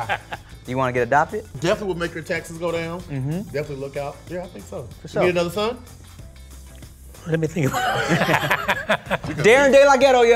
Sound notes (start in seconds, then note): 7.6 laughs